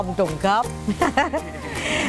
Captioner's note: laughing